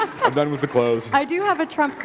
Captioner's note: laughter